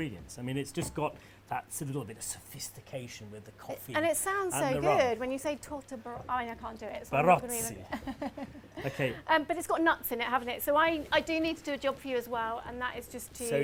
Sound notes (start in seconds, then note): 6.9 in an Italian accent; 7.8 laughs